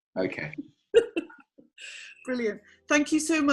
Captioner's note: laughs